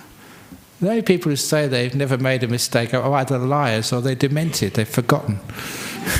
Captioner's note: laughter